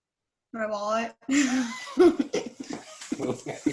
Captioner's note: laughs